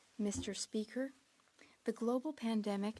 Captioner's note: speaking French